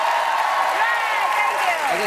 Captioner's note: cheers and applause